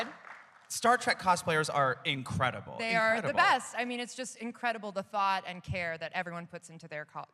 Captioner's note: applause